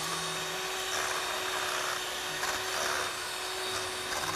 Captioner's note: beater grinding